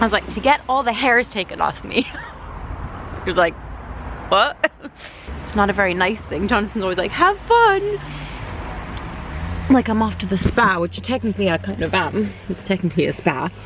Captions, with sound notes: I was like, 'to get all the hairs taken off me' he was like what? [She laughs] its not a very nice thing. Jonathon was like, 'have fun' like I'm off to the spa ....which, technically I kind of am it's technically a spa